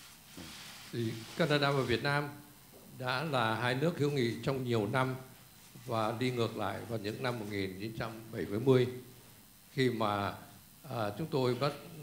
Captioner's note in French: parle en vietnamien